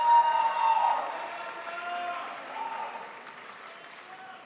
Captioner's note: crowd applauds